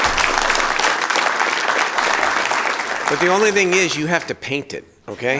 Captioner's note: applause